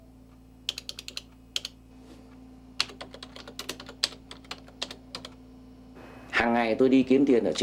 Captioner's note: typing sound